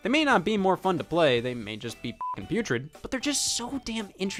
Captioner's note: beep